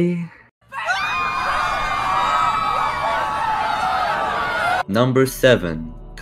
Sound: screaming

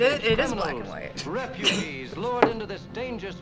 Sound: snickers; voice-over

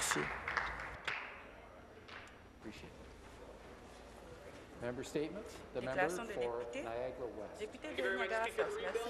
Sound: applause

